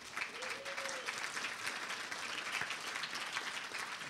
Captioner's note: applause